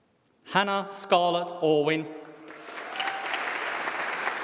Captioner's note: applause